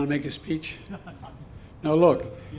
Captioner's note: laughter